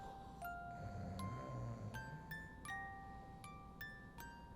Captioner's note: snoring